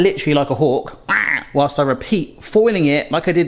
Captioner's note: squawks